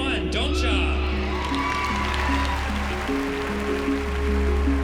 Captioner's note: cheering and applause